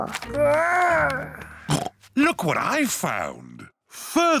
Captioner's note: oinks